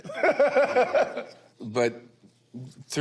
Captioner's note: group laughs